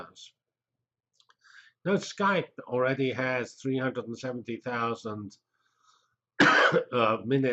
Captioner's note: cough